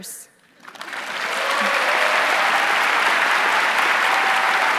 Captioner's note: audience clapping